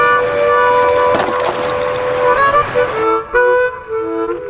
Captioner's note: rock crashing